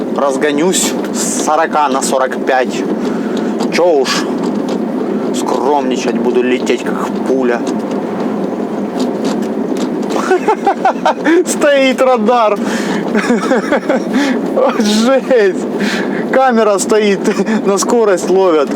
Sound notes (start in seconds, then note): 10.0 laughing